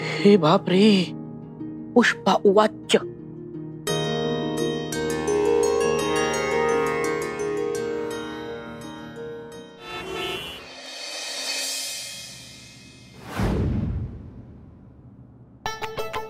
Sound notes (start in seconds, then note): 9.5 cars honking